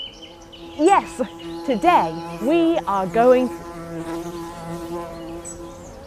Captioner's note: buzzing